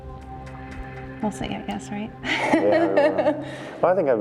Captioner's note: laughs